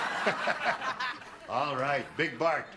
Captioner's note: laughter